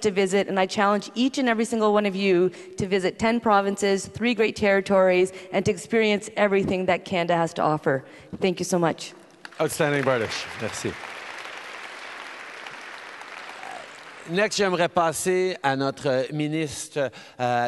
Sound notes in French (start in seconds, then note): 9.4 Applaudissements